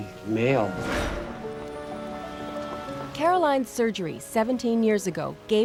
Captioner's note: whoosh